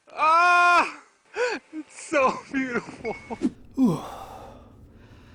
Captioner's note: crying